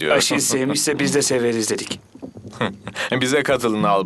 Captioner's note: men titter